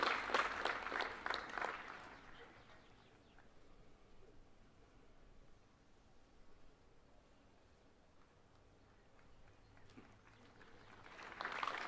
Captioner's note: applause